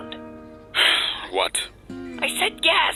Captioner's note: sigh